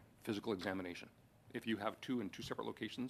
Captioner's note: speaking French